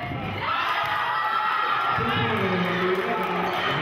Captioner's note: cheering